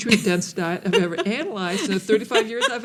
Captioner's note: laughing